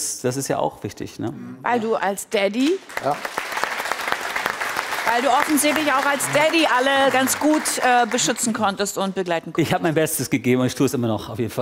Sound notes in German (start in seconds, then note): 2.6 Applaus